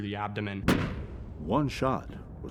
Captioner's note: gun fires